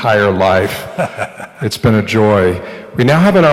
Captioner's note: laughter